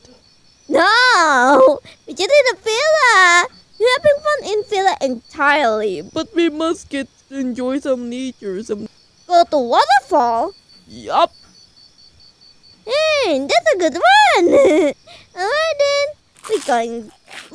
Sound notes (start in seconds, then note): 14.0 laughs